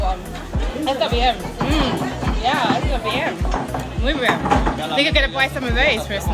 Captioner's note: speaking foreign language